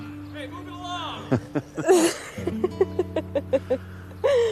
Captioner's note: chuckling